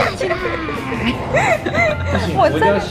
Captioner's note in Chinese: 笑到岔氣～～～